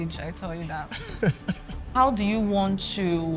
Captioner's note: laughs